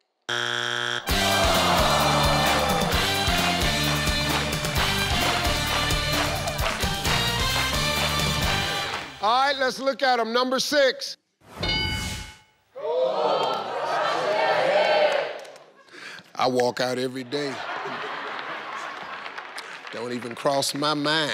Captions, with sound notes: (machine buzzes) ( cheerful music) - All right lets look them, number six. ( machine rings) - (Audience chatter) - I walk out everyday. Don't even cross my mind.